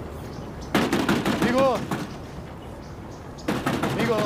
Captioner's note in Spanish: llama a la puerta